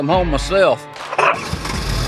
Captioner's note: car engine cranking